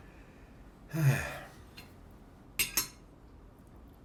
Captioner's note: sighing